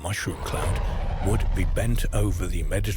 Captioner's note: explosion banging